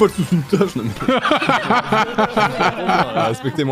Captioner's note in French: rires